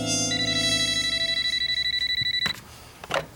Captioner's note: phone rings